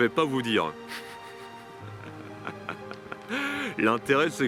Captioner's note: laughs